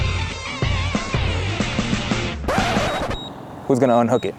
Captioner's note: upbeat music; plane engine roaring